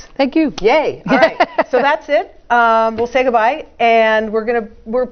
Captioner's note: laugh